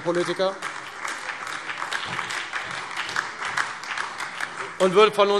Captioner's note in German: Beifall Freie Demokraten und vereinzelt AfD